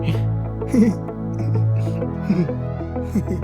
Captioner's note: awkward giggle